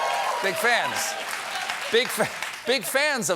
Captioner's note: applause